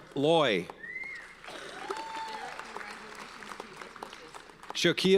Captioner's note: audience cheers and applauds